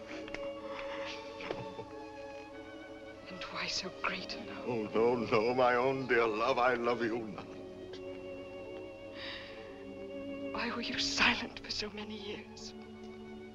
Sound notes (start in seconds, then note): 0.9 gasp